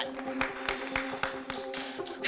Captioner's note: clapping